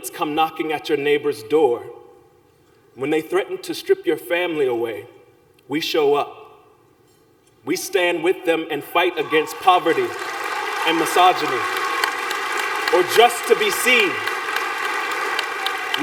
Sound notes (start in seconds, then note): 11.5 applause